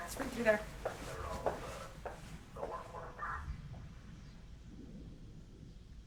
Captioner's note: police radio chattering